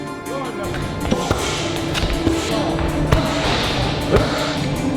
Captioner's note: suspenseful music; pads thudding